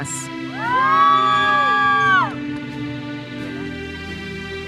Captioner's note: audience cheers and applauds